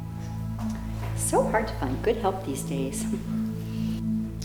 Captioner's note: cheerful voice